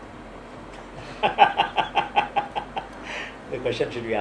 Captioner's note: laughter